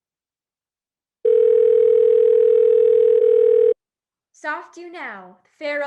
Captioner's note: phone ringing